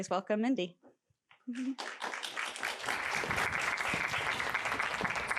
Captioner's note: applause